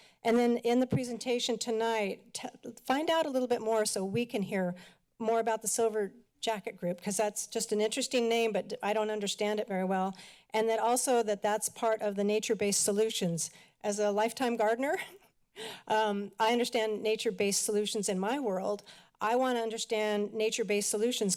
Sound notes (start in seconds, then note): 15.0 laughter